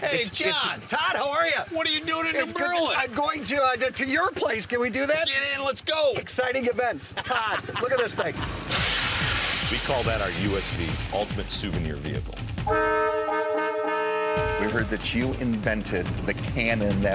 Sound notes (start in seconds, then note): 8.2 exhaust spraying; 12.6 horn honking